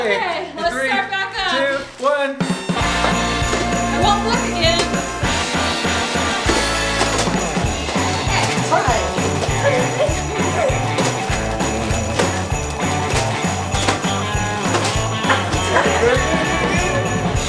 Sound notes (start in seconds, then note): 2.8 upbeat music; 4.3 present thudding